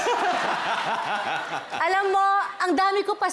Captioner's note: laughter